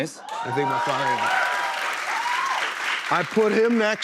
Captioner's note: cheers and applause